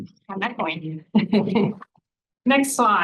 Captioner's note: person laughing